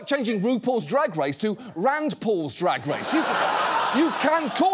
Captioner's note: audience laughing